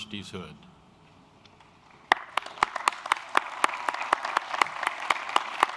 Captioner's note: applause